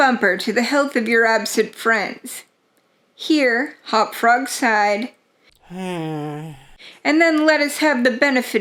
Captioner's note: here Hop-Frog sighed